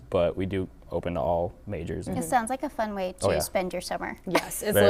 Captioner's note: laughing